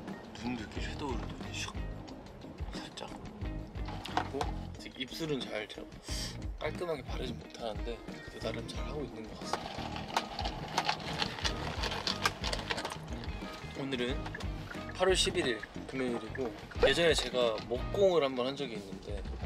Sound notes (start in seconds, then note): 11.8 sip